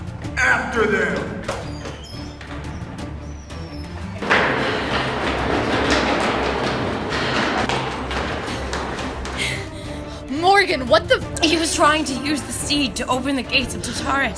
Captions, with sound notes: After them! (door swinging open) (footsteps down the stairs) Morgan what the f- - He was trying to use the speed to open the gates of Tartarus!